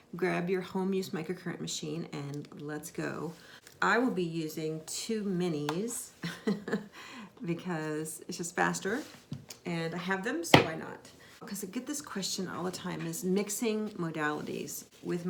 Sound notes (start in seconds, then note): 6.6 laughs